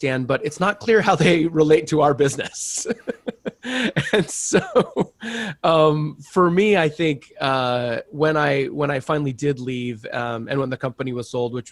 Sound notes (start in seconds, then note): 2.2 laughs loudly